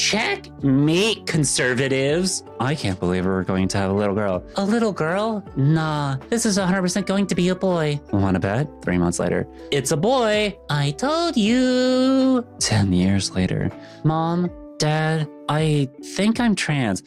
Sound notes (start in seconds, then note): none